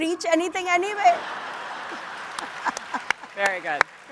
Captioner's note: audience applauds